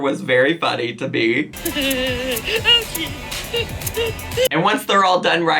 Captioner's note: giggles